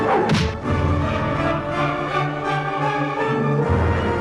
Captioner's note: sword smacks